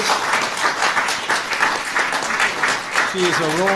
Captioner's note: applause